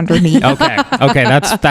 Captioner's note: laughs